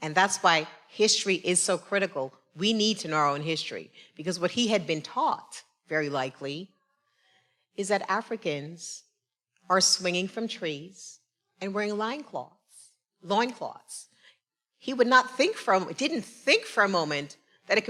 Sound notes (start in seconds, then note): none